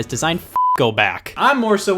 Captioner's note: beep